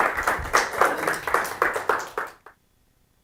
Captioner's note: audience clapping